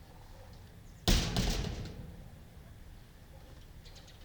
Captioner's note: door slamming